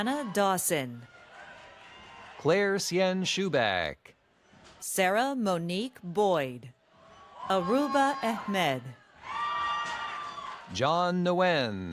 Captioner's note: cheers and applause